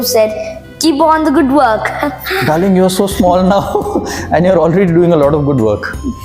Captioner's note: laugh